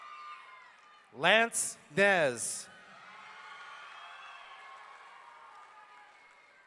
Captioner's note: audience cheering